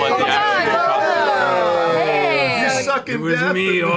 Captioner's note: cheering